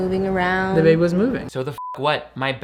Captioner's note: beep